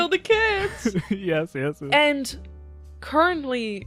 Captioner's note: laughs